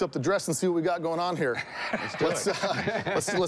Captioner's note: laughs